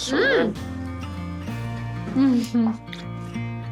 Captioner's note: chuckles